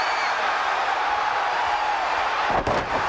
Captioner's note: crowd cheering